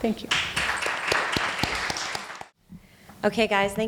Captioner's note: applause